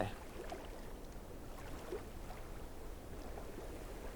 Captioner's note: water sloshing